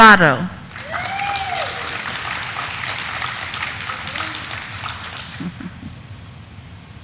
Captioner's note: audience applauding; audience cheering